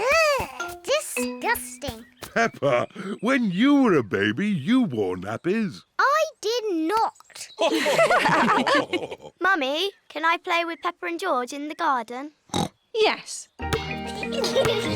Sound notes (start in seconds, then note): 7.6 others laugh; 12.5 oinks